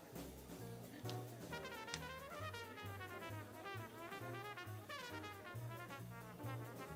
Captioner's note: people chattering; upbeat jazz music continues